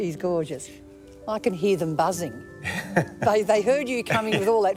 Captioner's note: laughs